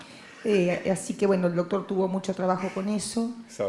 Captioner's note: Spanish language